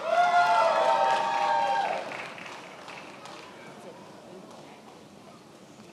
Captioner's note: attendees applauding and cheering